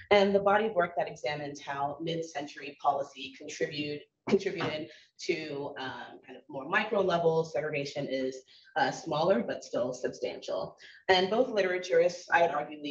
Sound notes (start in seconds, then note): none